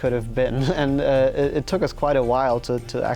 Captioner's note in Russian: Смеется